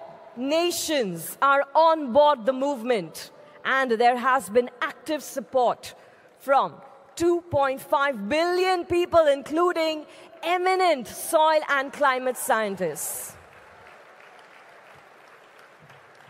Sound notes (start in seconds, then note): 13.1 applause